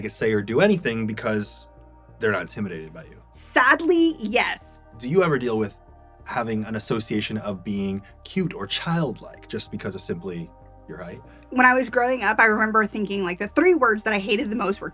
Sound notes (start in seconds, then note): none